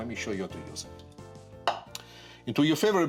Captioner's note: bowl clinks